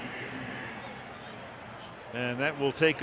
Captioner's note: pa announcement